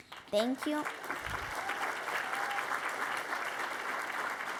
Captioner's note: applause